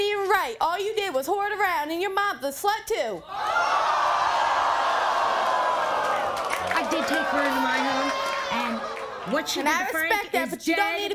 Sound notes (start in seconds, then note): 4.5 audience gasps